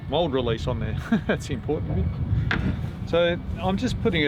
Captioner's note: laughing